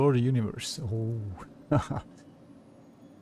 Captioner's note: chuckles